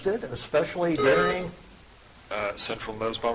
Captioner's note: buzzer chiming